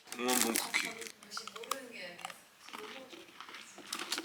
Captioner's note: Crunch